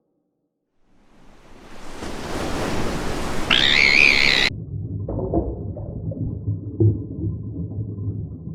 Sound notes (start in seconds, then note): 0.8 As Justine regains consciousness, ocean sound comes back; 3.2 scream; 5.0 splash